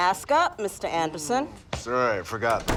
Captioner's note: door closes